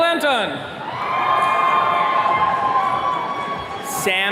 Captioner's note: attendees cheering